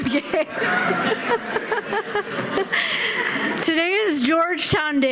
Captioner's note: laughing